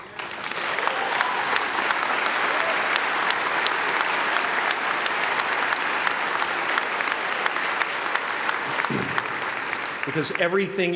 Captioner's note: applause